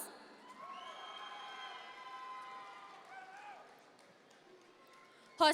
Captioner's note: audience members cheer